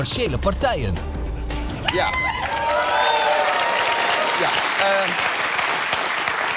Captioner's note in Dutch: gejuich en applaus